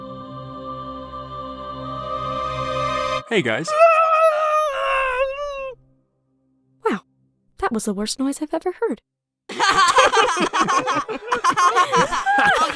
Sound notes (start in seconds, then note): 3.6 goo screams grossly; 9.5 all laugh